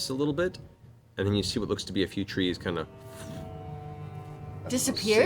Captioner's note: fwoosh